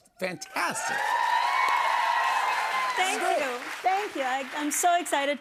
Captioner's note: cheers and applause